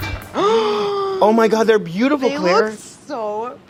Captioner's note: gasps